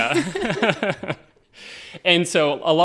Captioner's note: all laughing